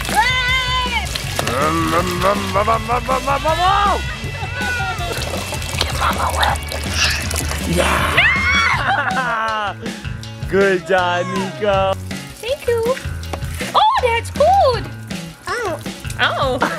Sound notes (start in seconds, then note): 0.0 screams; 1.3 imitates car engine revving; 7.7 screams